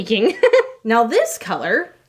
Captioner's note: laughing